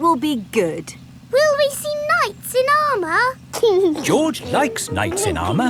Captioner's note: giggling